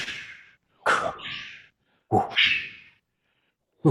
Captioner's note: weapons whooshing